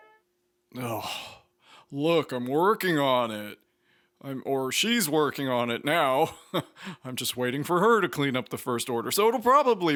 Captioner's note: sighs